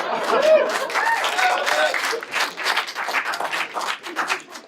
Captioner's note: applauding and laughing